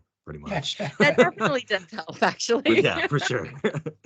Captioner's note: laughing